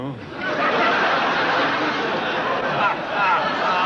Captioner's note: audience laughing